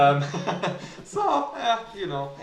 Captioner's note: laughing